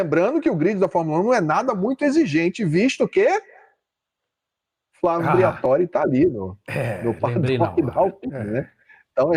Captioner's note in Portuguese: limpando a garganta